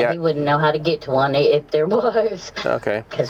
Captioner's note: laughs